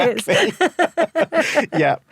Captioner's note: both laugh